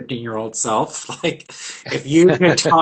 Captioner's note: laughs